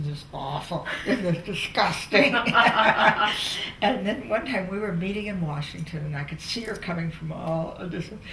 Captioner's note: laughter